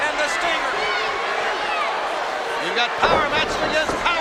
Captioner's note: crowd shout